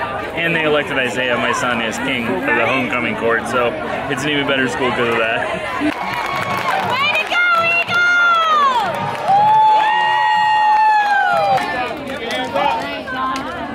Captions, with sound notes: - And they elected Isaiah, my son, as king for the homecoming court. So it's an even better school because of that. (crowd cheering)